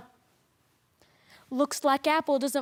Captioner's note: rustling